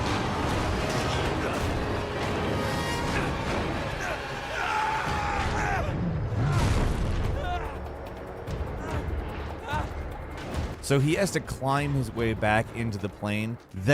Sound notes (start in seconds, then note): 0.2 Nathan grunts; 3.9 Nathan screaming